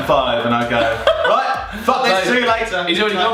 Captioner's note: laughing